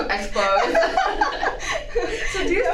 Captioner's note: laugh